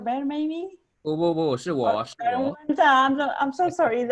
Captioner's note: murmurs